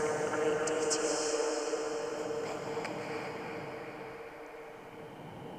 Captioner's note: voice softens